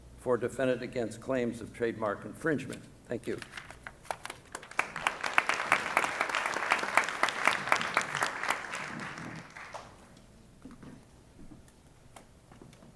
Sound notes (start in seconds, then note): 4.4 applause